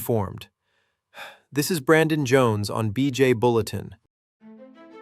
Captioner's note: exhales